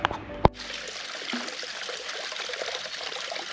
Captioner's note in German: Bach mit Zilpzalp